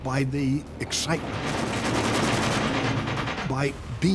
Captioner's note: artillery fire